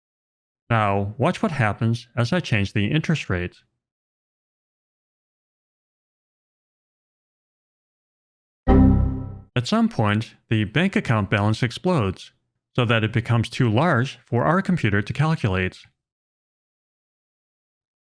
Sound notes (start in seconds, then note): 8.6 computer error sound